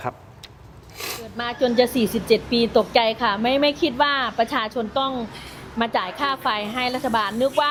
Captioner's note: takes a breath